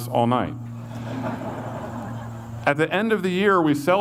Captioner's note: audience laughs